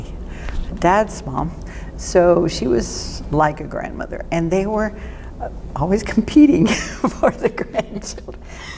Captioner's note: laughing